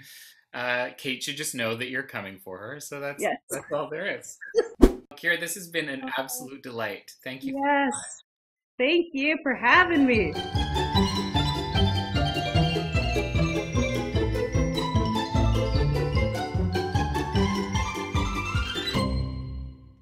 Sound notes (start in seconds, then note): 3.5 laughs; 4.7 whoosh; 9.7 upbeat cheerful music plays